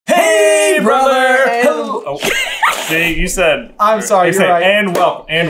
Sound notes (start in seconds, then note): 1.6 laughing